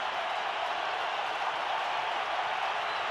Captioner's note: crowd cheering